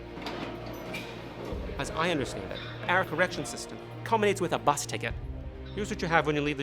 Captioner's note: gate clanking